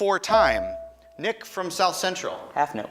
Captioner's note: buzzer chimes